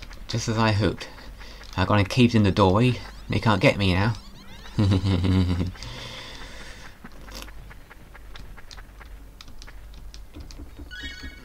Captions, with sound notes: Just as I hoped! I've gone and caved in the doorway... ...they can't get me now! *chuckles*